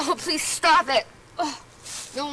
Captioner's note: gagging